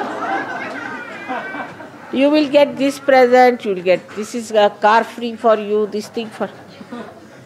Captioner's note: laughter